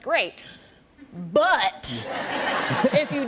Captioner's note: laughter